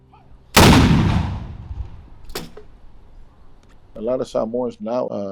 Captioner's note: cannon fires loudly